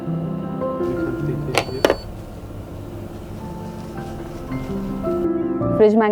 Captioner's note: machine beeps